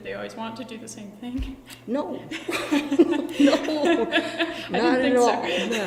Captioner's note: BOTH laugh